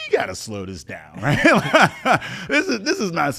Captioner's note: laughs